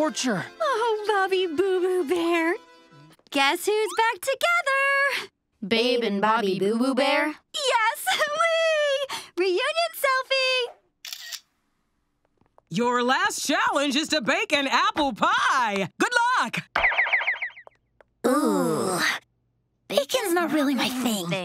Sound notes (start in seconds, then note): 11.0 camera shutter clicks